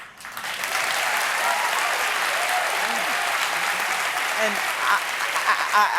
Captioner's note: cheers and applause